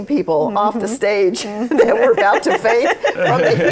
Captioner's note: laughter